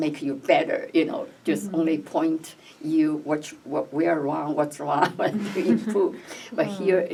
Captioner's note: laughs